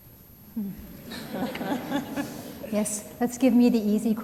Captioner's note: laughter